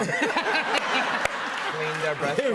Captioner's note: laughter